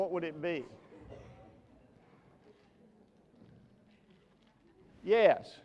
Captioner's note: audience murmurs